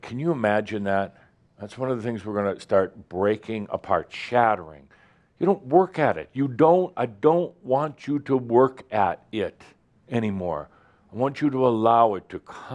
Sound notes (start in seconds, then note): none